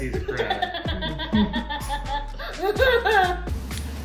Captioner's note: laughing